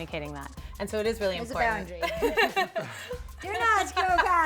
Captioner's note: laughs